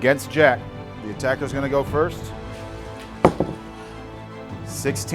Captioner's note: rolls dice